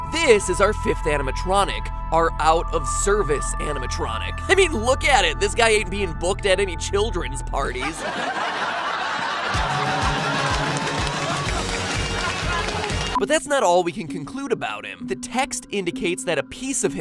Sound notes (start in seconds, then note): 7.6 laugh track; 9.5 applause, tv show end song